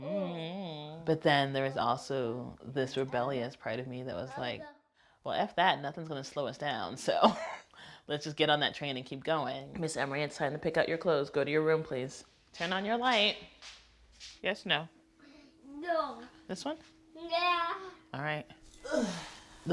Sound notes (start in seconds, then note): 7.7 laughs